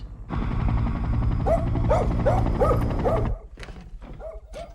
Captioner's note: flip barks